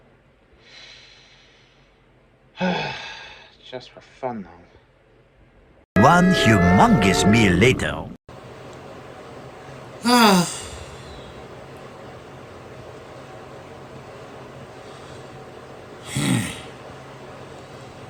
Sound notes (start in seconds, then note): 2.6 sighs